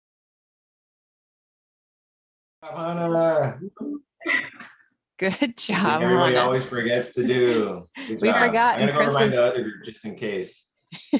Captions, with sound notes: - Hannah! (cheers) - Good job, Hannah. - I think everybody always forgets to do; good job. - We forgot and Chris is- - I'm gonna go remind the other group, just in case.